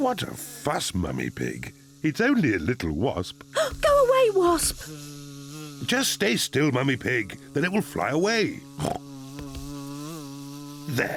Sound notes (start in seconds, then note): 8.7 snorts